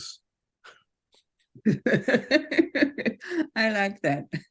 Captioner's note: group laughs